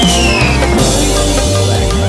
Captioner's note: biff!